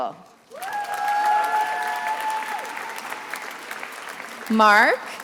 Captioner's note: attendees applauding and cheering